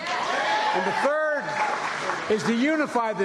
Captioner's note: cheers and applause